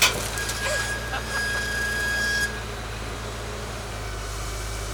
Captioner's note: laughing